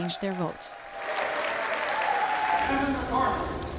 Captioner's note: cheering and applause